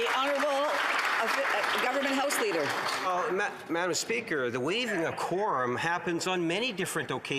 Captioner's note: some Applause